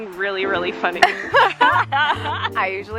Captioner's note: laughing